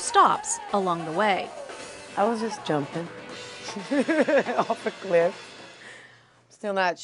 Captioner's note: laugh